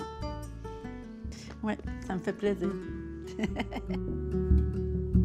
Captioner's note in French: rires